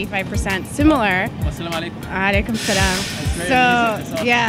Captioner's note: some Private Disscusion And Laughing